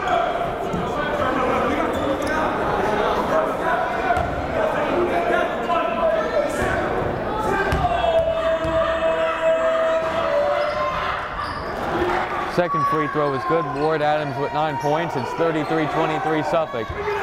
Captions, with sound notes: (yelling) Second free throw was good, Ward-Adams with nine points, it's 33, 23, Suffolk.